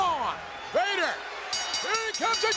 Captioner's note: bell dinging